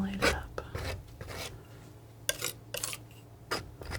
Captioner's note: scratching